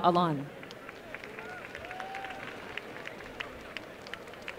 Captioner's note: applause